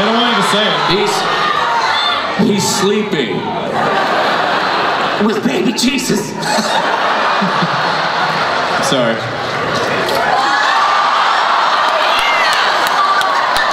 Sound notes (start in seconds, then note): 3.7 everyone laughs; 6.2 laughs; 9.9 crowd cheers and applauds